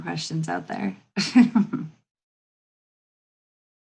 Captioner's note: laughs